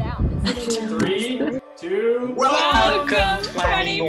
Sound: laughing

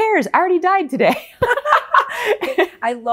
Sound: laughing

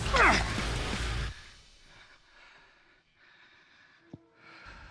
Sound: breathing hea heavil

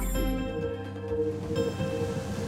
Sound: electronic humming

